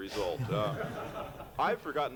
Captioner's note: laughter